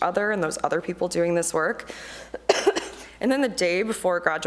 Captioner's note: coughs